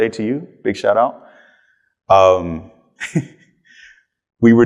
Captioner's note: chuckles